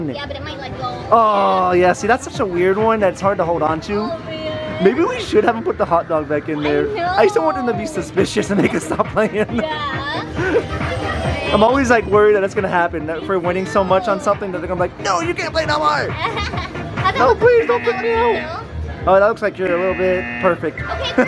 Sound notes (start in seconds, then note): 8.3 laughing; 16.1 laughing